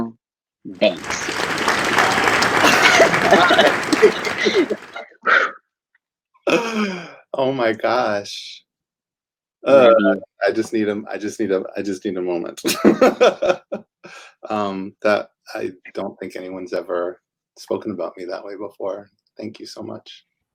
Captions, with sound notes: Dr. Daniel Banks. *applause and laughter* Oh my gosh. I just need a moment. (laughs) I don't think anyone has ever spoken about me that way before, thank you so much.